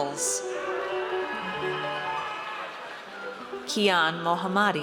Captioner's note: audience cheers